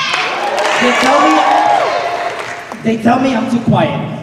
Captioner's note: cheers and applause